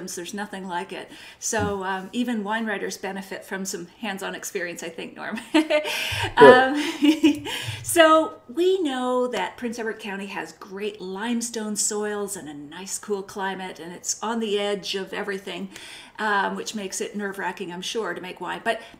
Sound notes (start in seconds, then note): 5.4 laughing; 5.9 laughs